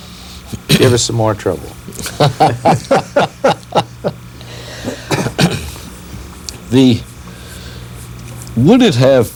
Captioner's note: laughter